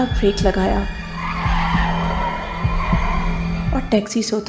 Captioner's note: car Skidding